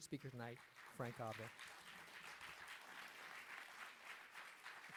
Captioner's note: audience applauds